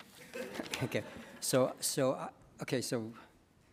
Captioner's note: attendees laughing